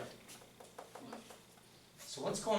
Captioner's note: voiceover